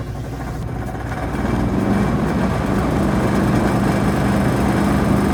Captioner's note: AC clattering loudly